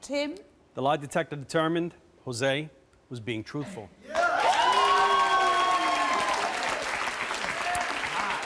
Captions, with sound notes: Tim? - The lie detector determined Jose was being truthful. (audience applauds)